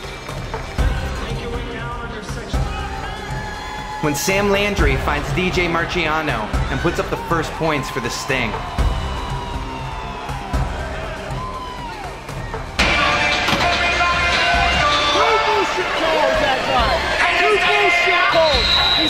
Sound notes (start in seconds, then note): 12.4 arena Crowd and Music